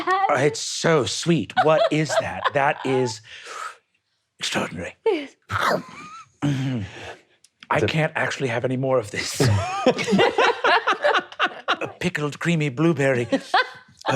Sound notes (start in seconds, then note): 5.5 munching; 9.4 laughing